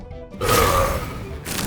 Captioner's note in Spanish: eructa